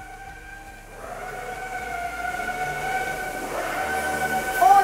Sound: machines whirring

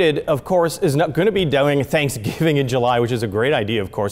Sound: chuckles

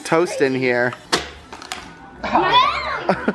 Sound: toaster pops; shouting

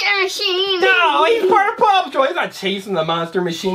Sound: voiceover

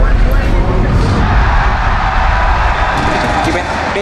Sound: crowd cheering

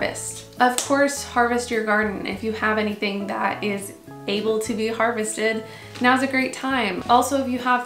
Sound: clap

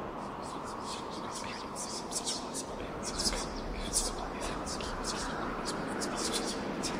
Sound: multiple voices whispering in foreign language

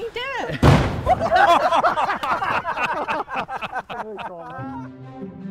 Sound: laughter

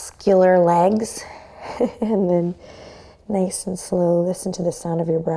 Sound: chuckles

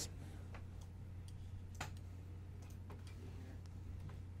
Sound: mouse clicking

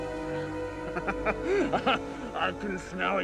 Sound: laughing

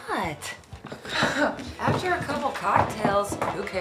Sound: nurse scoffs

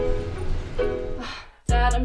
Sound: sighs

